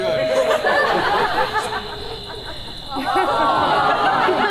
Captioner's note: audience laughs